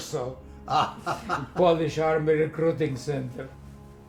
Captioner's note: Polish speaking; laughing